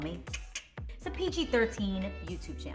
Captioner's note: clicks tongue